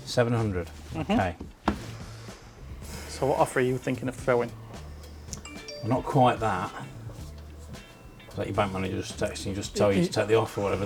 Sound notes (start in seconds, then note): 5.4 phone notification